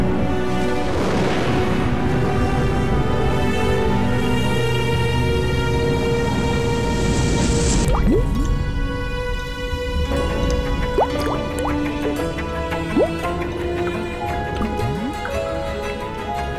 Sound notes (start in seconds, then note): 0.0 thunder claps; 0.3 intense music; 7.9 rain drops plop; 13.9 intense music